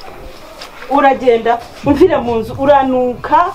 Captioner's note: mocking